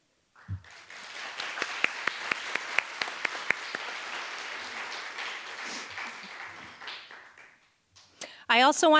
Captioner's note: applause